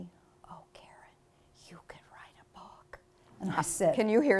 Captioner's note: whispers